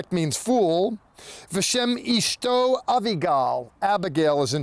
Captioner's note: speaking in Hebrew